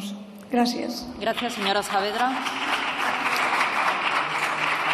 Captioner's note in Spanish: Aplausos